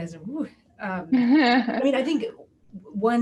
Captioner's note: laughs